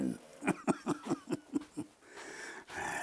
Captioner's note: laughing